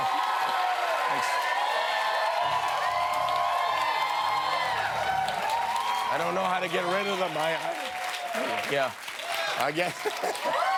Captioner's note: cheers and applause